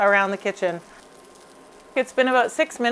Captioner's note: fish sizzling